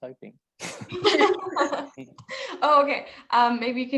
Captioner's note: laughter